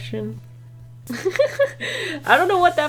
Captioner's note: laughs